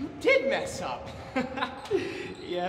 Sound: laughing

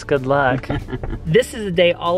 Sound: laughs

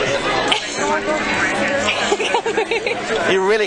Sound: girl giggles

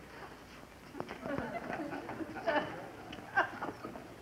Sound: people laughing

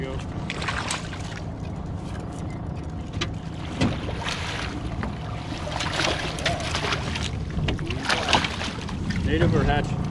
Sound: fish splashing

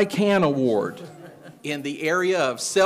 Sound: attendee chuckling

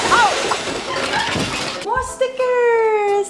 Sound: crashing

